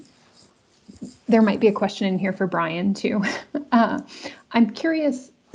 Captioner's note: chuckles